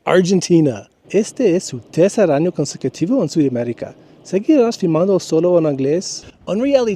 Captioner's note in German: Auf Spanisch